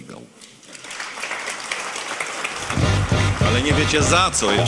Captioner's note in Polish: oklaski